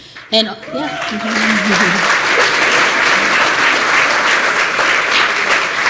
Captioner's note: applause